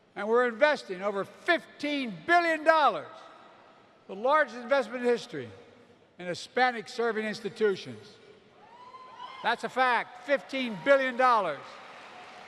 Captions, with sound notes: And we're investing over $15 billion -- the largest investment in history -- in Hispanic-Serving Institutions. (Applause.) That's a fact. $15 billion.